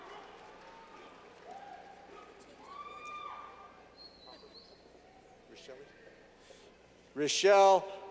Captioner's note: clapping